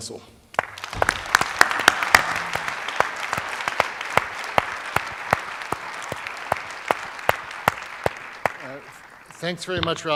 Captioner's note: applause